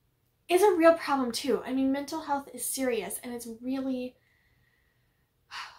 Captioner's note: sigh